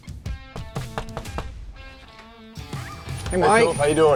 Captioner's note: knocking